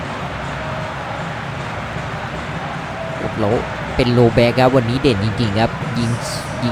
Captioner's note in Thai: ปรบมือ